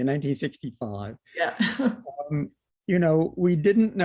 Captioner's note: laughter